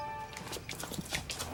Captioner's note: dramatic music; footsteps crunching; birds chirping